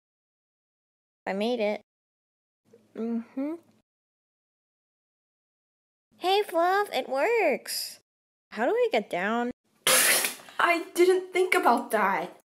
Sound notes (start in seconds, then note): 9.8 spits water